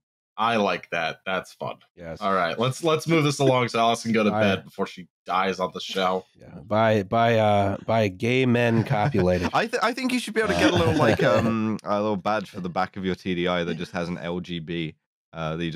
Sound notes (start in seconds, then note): 8.6 laughter